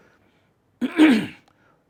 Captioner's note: clears throat